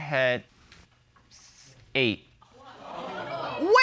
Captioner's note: audience exclaims